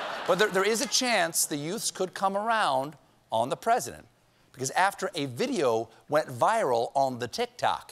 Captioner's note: laughter